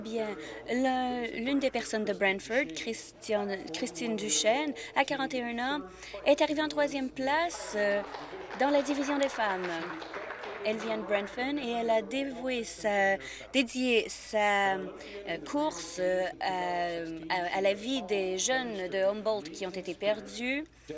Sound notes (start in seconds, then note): 12.3 applause